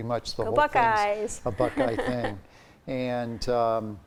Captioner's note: laughs